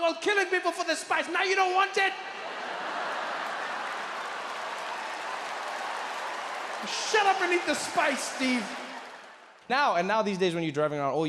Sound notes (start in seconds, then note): 2.3 audience laughs and applauds